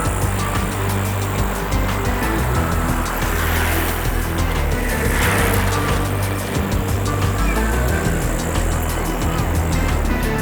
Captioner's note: bubbling water